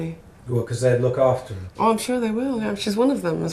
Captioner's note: voiceover